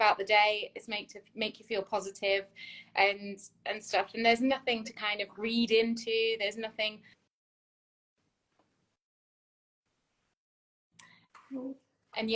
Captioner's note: audio cuts out